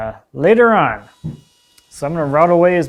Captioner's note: gadget whirring